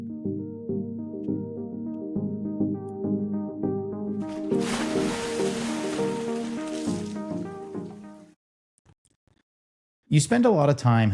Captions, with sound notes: (soft music) (water splashing) You spend a lot of time